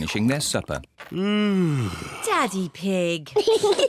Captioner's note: yawns; kids giggle